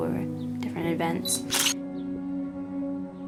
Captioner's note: camera shutter sound